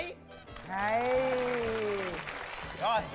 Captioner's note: applause